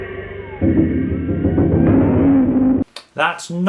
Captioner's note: thunder